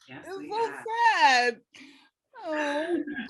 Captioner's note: laughing